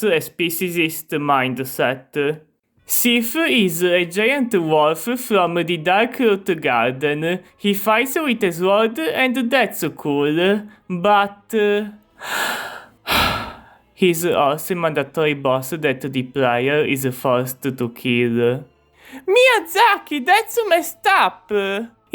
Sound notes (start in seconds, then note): 12.2 serious sigh